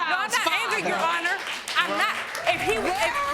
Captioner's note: crowd applauding